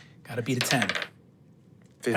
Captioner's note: dice rolling